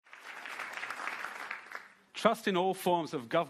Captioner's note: audience clapping